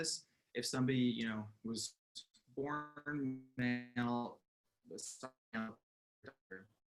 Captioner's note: audio distorts